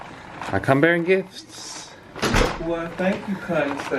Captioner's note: door clatters